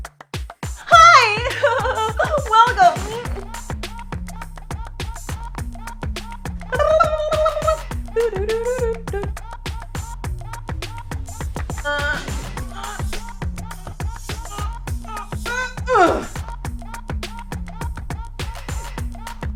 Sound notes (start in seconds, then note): 0.8 laughs; 6.9 rolling tongue; 8.3 sings tune; 11.8 grunts